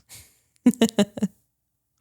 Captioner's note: laughs